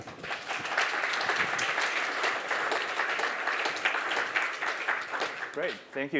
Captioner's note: applause